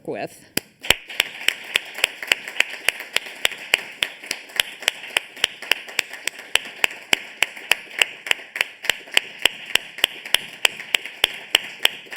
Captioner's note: applause